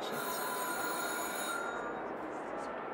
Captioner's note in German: Klingel